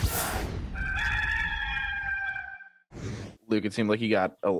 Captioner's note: rooster crowing